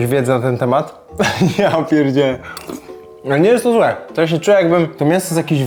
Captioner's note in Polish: śmiech